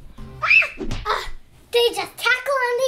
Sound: Adley squealing

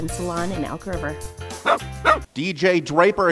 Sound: dog barking

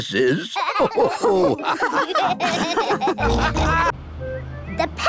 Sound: all laugh

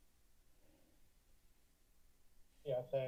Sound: silence

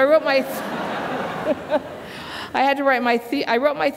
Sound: laughter

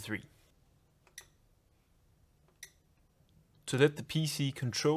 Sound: machine beeps

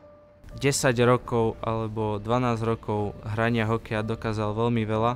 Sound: speaks Slovakian

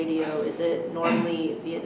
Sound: coughing in background

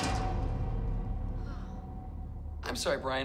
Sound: clang

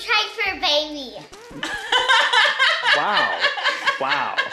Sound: laughs

